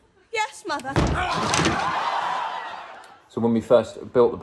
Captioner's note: creaks and screams